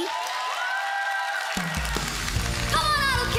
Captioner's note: applause, cheering